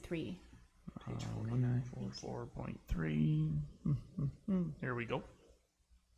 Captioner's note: humming